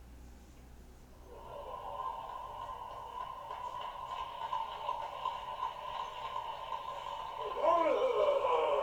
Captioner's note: applause!!!